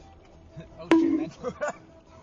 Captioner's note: bonk